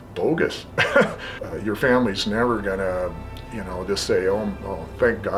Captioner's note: laughs